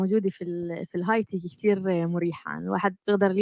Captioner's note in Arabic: لغة أجنبية